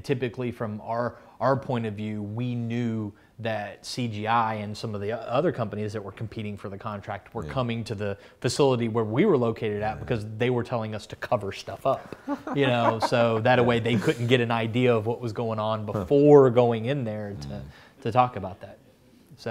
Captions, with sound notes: Typically, from our point of view, we knew that CGI and some of the other companies that were competing for the contract were coming to the facility where we were located at because they were telling us to cover stuff up. (laughs) Thataway they couldn't get an idea of what was goin' on before going in there to talk about that.